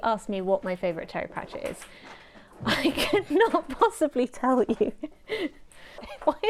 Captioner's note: ping pong ball game intensifies